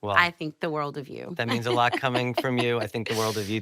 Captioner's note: laughing